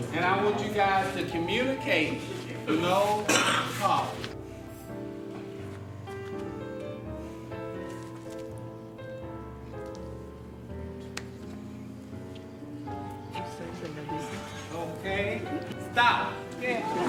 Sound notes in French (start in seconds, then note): 5.4 musique jazz; 7.7 Bruits de pas